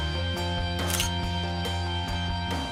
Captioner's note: camera shutter sound